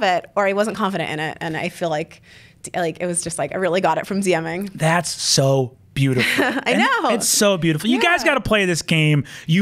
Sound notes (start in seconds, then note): 6.0 laughs